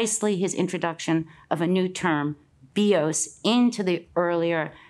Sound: speaks in Greek

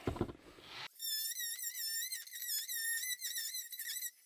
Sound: tool squeals

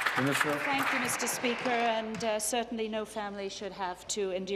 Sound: applause

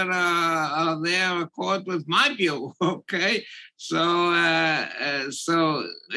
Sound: laugh

